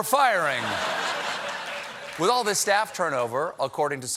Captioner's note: laughter